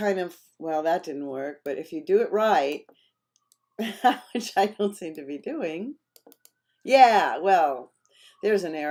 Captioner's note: laughter